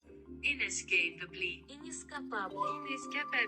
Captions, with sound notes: [Voices] Inescapably. Inescapably. Inescapably Foreign.